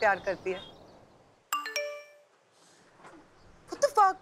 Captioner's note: Cell phone beeps